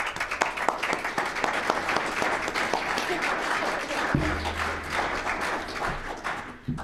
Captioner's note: applause